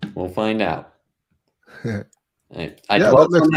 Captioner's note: laughing